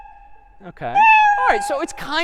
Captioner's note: meow